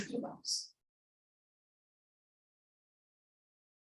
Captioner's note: silence